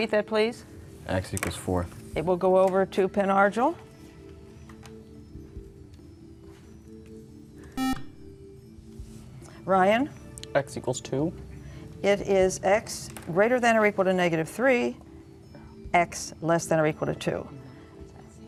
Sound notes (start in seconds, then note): 7.8 buzzer